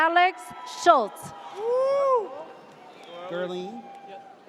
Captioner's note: audience cheers